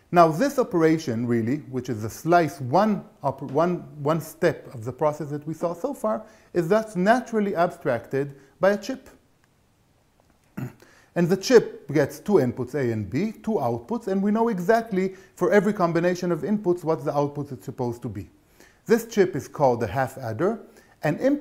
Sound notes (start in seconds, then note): 10.5 cough